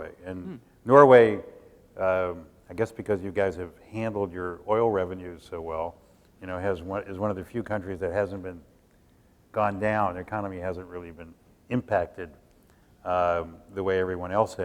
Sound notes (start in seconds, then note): none